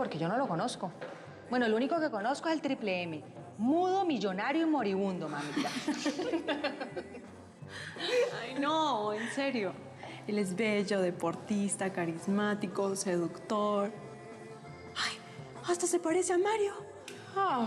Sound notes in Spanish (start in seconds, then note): 5.4 risas